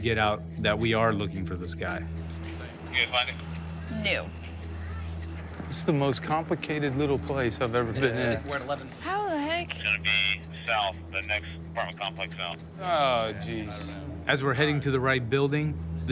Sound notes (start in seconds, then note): 2.5 officer on radio; 9.5 man on radio